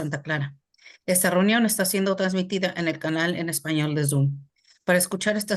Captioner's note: speaking foreign language